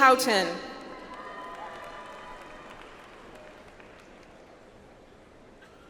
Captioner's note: audience applauds